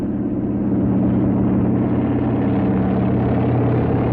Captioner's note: helicopter whirring